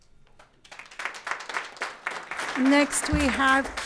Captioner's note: audience applauding